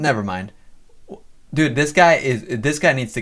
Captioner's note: laughs